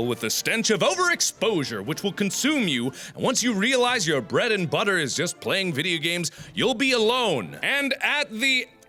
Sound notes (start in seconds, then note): 2.9 another gasp